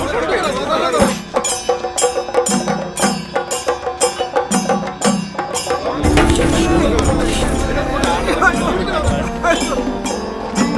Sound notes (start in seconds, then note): 6.5 indistinct chatters